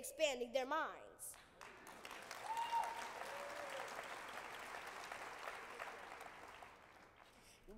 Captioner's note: applause